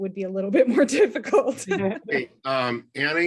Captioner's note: laughing